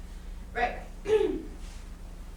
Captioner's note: clears throat